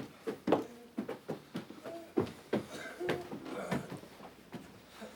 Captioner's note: patients groaning